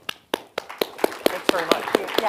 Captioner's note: audience applauds